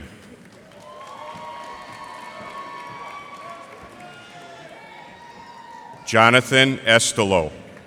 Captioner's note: cheers and applause